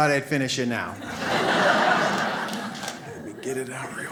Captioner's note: audience laughs